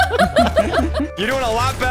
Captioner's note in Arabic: الكل يضحك